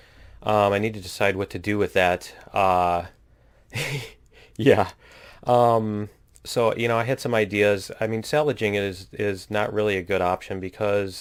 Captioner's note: laughs